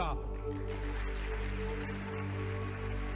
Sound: applause

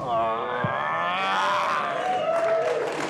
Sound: bloom roars

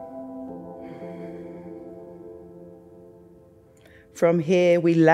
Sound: inhales; exhales

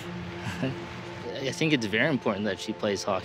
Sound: chuckle

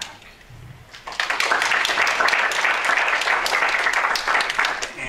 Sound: applause

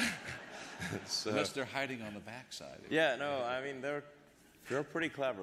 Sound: laughter

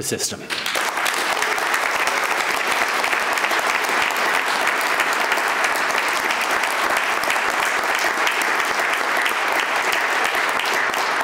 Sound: applause

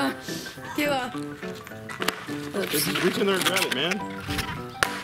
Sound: laughs; yells

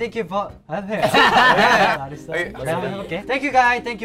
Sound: laughs

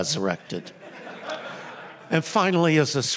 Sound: laughter

